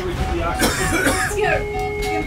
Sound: coughing; alarm beeping

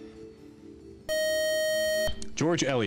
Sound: time's-up buzzer

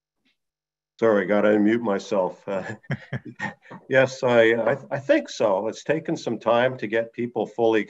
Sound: laughing

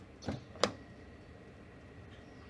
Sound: car door open

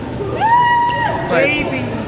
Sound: girl screaming

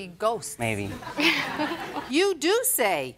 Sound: audience laughs

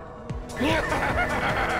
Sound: evil laughing

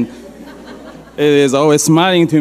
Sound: audience laughing

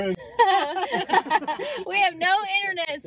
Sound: all laugh

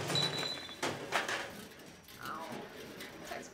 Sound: cans rattle

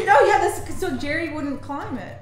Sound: laughs

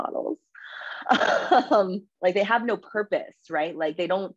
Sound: laughs

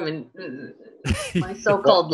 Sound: chuckling

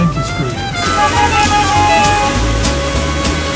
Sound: cars honking

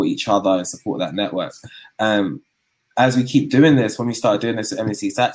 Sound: erm

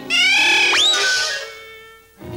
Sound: whirring sound; zip!

